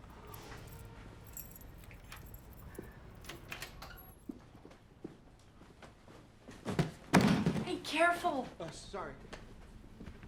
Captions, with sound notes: (keys jangling) (door latch clicks) (box thuds) - Hey, careful. - Oh, sorry.